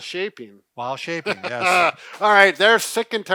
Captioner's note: laughing